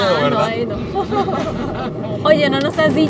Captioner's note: laughter